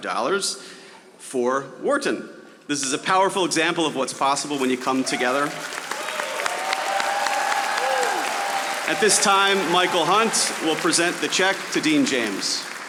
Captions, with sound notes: This is a powerful example of what's possible when you come together. (audience applauding) At this time, Michael Hunt will present the check to Dean James.